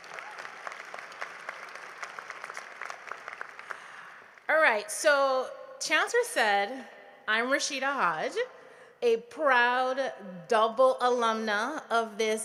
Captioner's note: applause